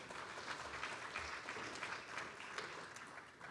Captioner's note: applause